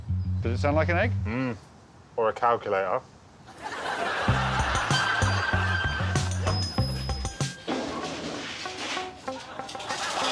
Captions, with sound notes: -Does it sound like an egg? -Hmm, or a calculator. [wheel squeaking]